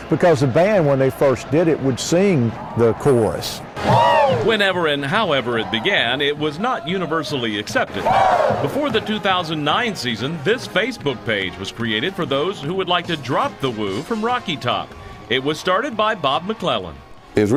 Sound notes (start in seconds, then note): 3.8 crowd; 8.0 crowd